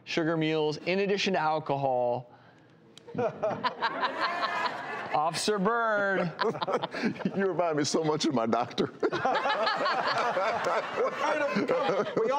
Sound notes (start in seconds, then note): 3.0 doctors laughing; 9.0 all laughing